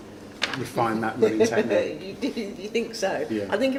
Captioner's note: giggles